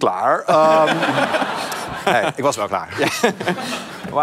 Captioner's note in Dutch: gelach